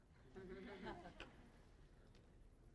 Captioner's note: audience chuckling